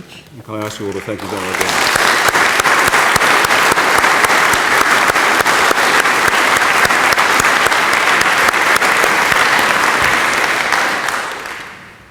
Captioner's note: applause